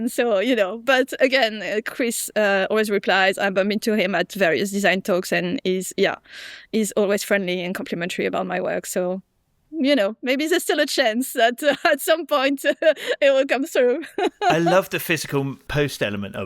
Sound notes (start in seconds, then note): 14.1 chuckles